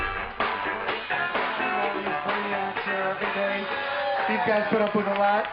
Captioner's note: ambient Party Sounds